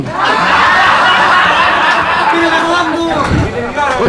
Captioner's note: laughs